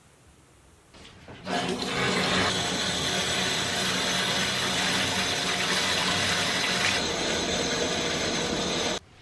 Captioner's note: running a bath